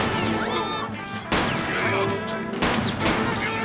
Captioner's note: gunshots